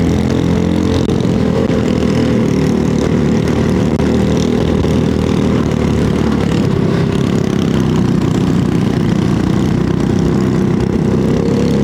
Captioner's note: engine noise